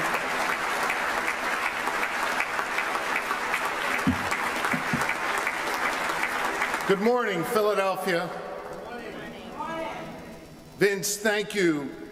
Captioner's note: applause